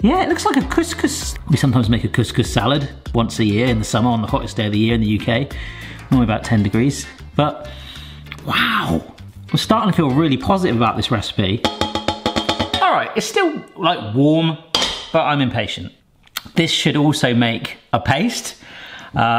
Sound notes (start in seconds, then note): 11.6 metal bowl clanks